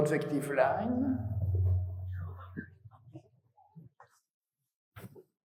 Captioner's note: feedback whirs